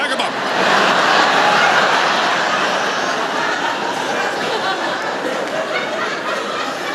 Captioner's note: laughter